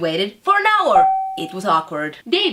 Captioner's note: ding